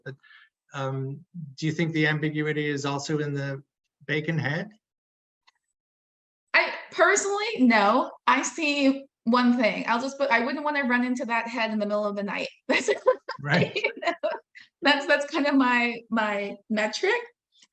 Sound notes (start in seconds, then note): 12.8 laughing